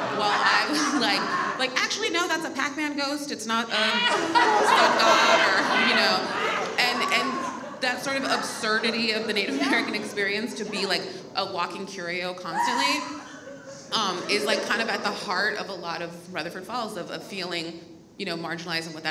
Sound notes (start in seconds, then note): 4.0 audience laughs